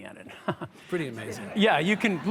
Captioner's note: audience chuckles